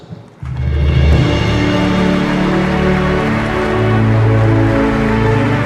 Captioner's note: dramatic music; audience applauding